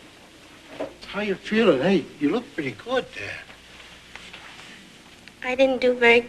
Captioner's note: none